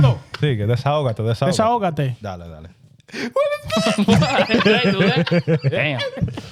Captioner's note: laughing; speaking In Foreign Language